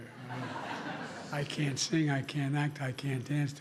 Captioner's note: laughter